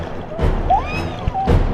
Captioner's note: scream